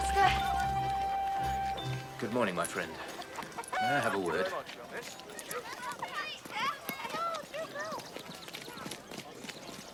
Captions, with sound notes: Morning, Pastor. Good morning, my friend. May I have a word? [children chattering]